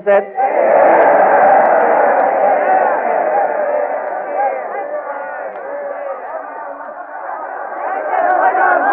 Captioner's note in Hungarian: éljenzés